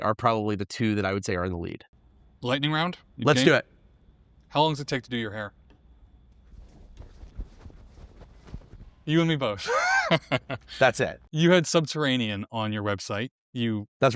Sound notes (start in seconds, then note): 9.6 chuckling